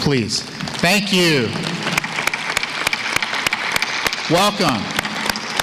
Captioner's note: applause